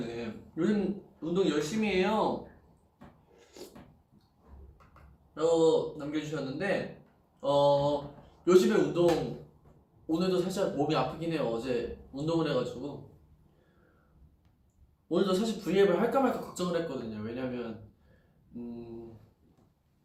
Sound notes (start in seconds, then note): 3.4 slurp